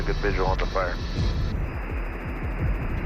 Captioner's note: static hissing